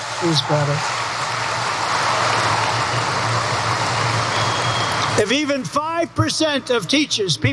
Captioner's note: applause